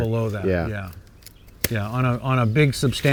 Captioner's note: branch snaps